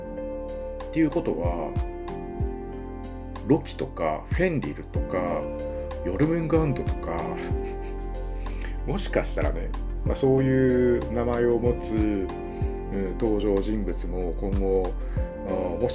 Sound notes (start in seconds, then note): 7.4 laughs